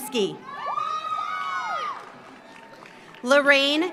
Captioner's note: audience cheers; audience applauds